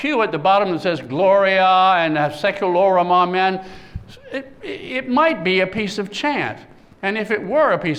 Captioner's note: non-english speech